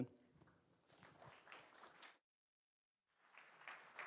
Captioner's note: applause